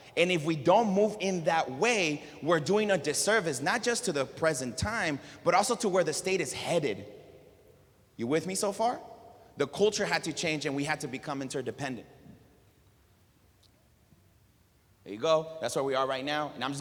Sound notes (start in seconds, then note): none